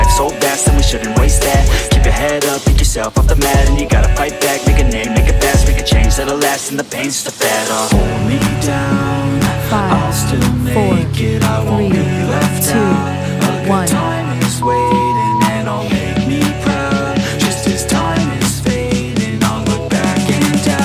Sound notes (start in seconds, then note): 0.0 beep; 0.0 upbeat music; 14.6 upbeat music; 14.6 beep